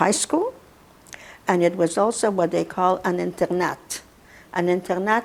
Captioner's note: russian